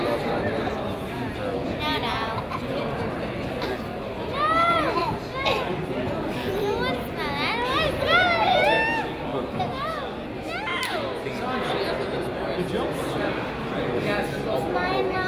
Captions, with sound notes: (crowd chatters) - No, I can ignore you. (children chatter and laugh)